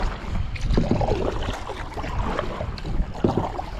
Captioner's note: wind blowing